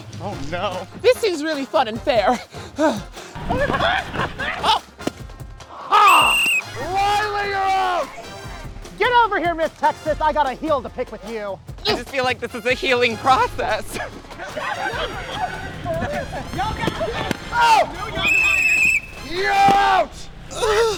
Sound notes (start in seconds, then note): 2.4 gasps; 6.0 whistle blows; 6.1 exhales; 17.9 whistle blows